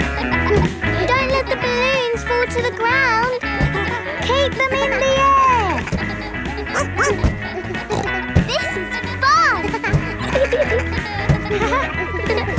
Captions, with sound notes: Don't let the balloons fall to the ground. Keep them in the air! (BARKS) (SNORTS) This is fun!